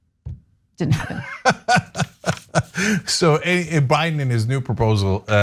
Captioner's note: laugh